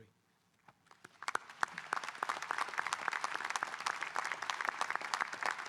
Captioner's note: audience applauding